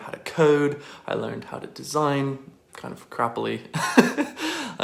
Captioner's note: laughs